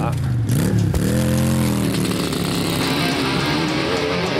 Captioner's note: motorcycle revving